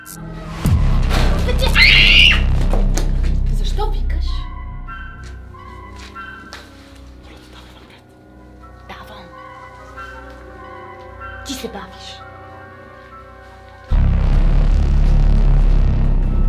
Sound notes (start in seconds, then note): 1.6 scream